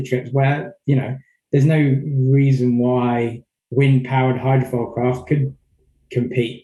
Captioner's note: murmurs